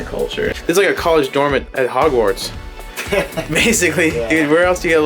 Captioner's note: laughs